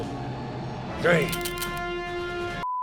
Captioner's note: guns click